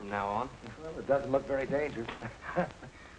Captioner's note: chuckles